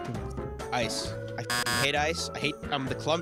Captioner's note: beep